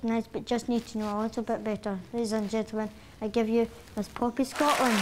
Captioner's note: audience applause